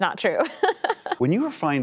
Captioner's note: laughter